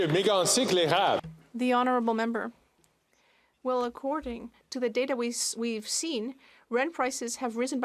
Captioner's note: some Applause